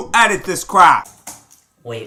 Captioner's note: keyboard clicking